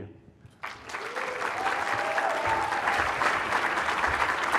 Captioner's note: cheering, applause